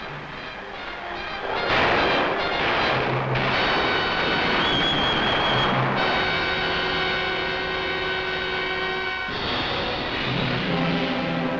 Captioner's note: explosions